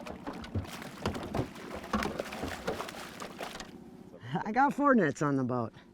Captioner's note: fish splashing